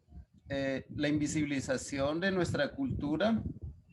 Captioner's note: speaking Spanish